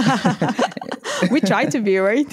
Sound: laughter

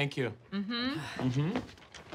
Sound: sighs

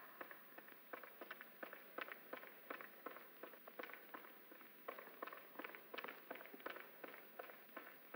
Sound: echoing footsteps overlap

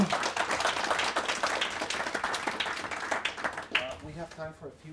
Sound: audience applauds

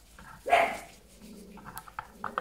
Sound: small dog barking

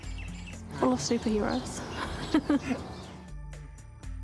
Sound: chuckles

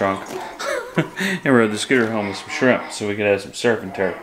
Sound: laughing

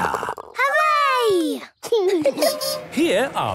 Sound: laughing

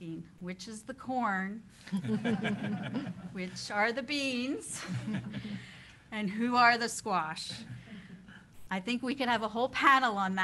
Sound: laughter

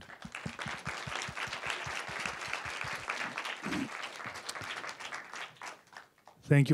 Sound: applause

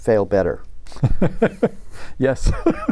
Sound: laughter

